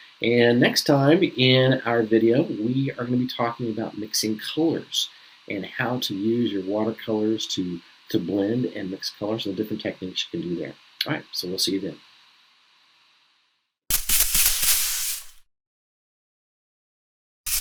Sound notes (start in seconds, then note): 13.9 brush squeaking